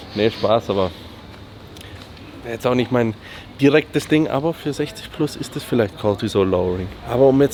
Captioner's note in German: schnauben